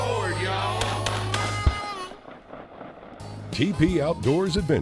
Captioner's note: gunshots